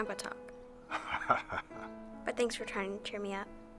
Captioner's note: Bill laughs